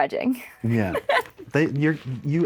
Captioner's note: laughs